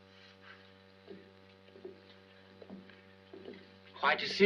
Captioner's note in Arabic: خطوات